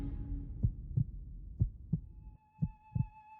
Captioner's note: tense music; heart beating; flute music